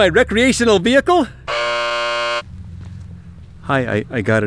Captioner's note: buzz